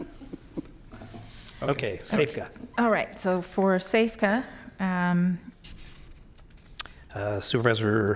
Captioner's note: laughter